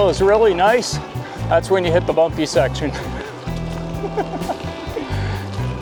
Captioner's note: laughs